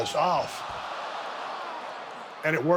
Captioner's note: audience cheers